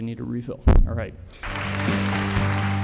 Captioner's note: applause